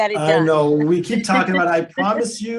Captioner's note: laughs